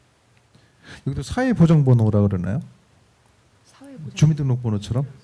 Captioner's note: speaking korean